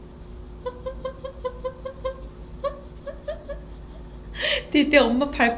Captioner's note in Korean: 웃음